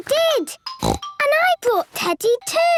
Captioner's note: snorts